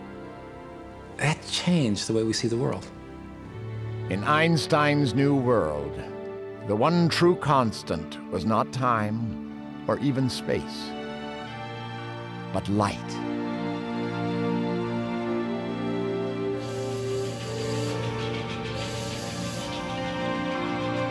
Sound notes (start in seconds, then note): 16.4 <i> steam whistle blowing,</i> <i> train chugging</i>